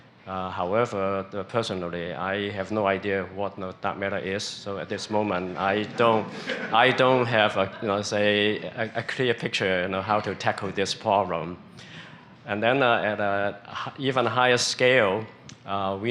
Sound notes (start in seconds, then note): 5.4 laughter